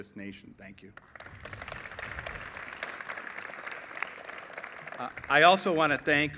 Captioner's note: applause